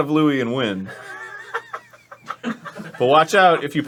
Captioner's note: knowing laughter from audience